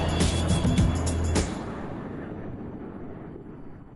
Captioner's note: thunder rumbles